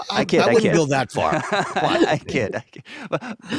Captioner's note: laughs